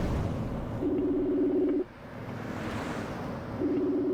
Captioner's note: phone ringing